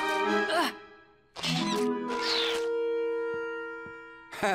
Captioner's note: squeaking; Pascal squeals; chuckles